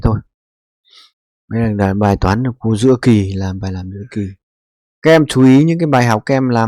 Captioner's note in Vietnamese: khịt mũi